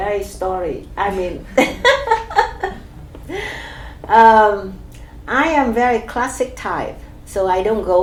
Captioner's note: laughs